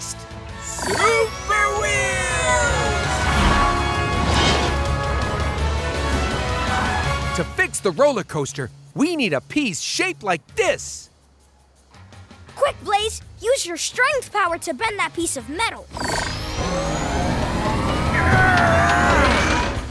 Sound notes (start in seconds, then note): 17.4 grunting